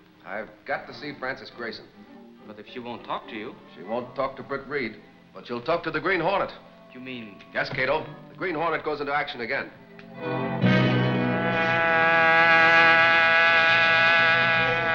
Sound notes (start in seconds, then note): 10.1 dramatic music; 11.0 buzzing